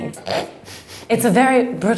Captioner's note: snorting and laughing